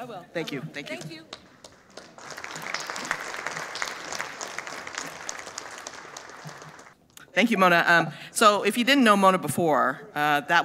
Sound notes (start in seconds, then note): 1.4 audience applauding